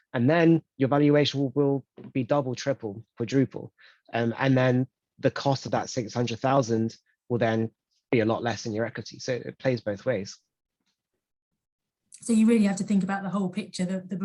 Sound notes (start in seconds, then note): none